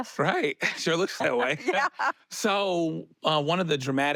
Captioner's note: laughs